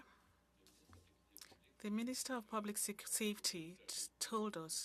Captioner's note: speaking French